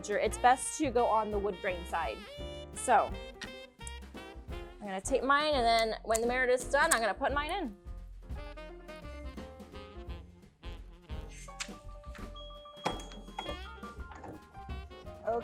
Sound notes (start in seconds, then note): 10.2 soft music; 12.8 machine beeping